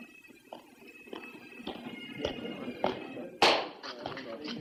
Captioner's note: men chattering